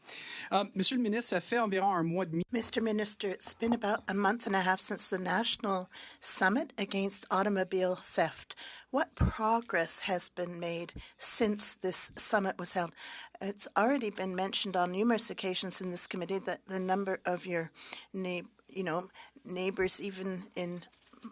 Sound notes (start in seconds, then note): 10.2 speaking French